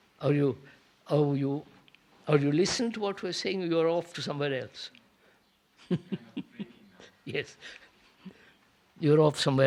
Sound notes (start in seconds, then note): 5.8 laughs